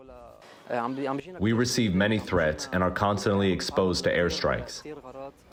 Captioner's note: through translator